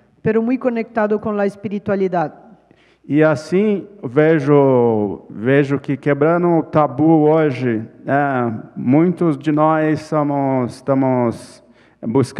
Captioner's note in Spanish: ponente habla en portugués; ponente habla en portugués